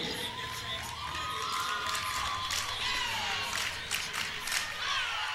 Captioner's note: audience claps